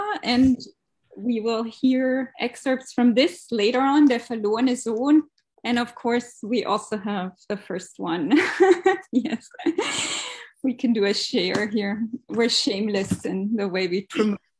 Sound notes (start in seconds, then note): 4.1 speaking german; 8.3 laughs